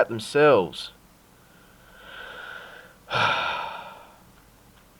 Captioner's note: sigh